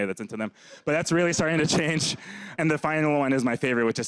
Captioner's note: laughs